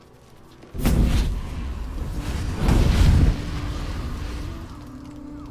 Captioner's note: fire flaring